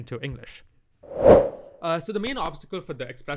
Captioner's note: transition whoosh